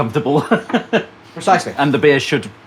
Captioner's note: laughs